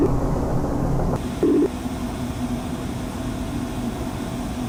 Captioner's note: static hissing